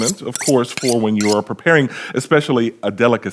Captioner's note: knives scraping